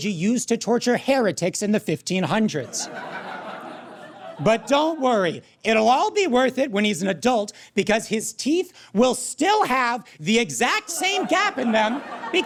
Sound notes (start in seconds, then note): 3.0 audience cackles